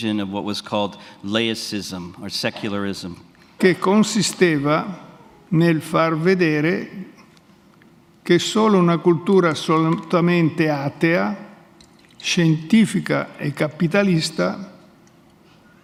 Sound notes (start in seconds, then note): 5.0 speaks in Italian